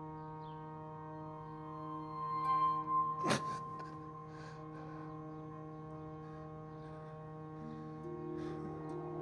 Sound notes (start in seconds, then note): 3.2 Thomas gasps